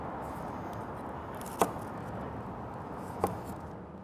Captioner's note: chopping sound